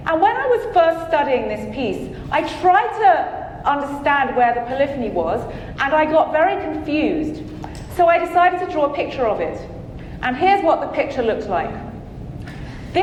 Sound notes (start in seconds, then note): none